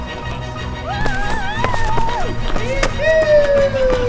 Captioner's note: cheers